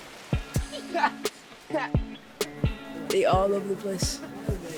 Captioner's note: laughing